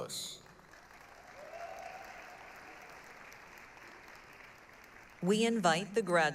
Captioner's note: applause, cheering